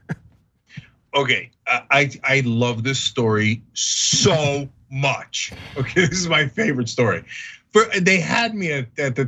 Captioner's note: laugh; laugh